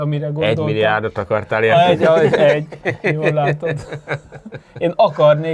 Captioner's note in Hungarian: nevetés